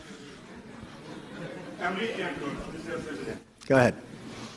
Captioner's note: crowd murmurs with some laughter